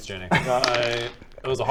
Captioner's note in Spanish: Tirada de dados